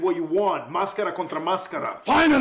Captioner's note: Spanish